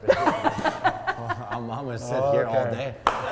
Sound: people laughing

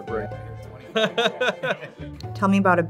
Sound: laughing

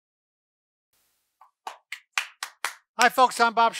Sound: hands clapping

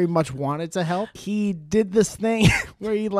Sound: laughs

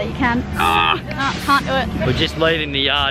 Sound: grunts

